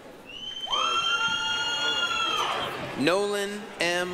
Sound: applause, cheering

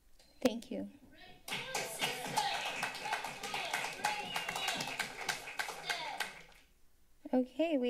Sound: applause

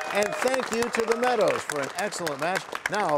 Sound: cheers and applause

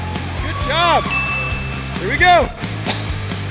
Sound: ding

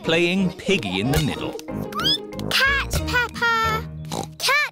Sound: squeaks; oinks

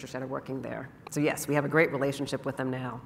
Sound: none

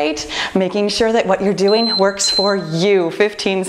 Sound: timer beeping

